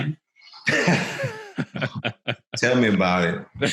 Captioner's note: laughing loudly